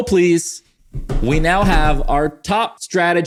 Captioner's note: loud bangs